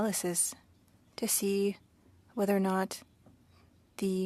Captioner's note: speaking French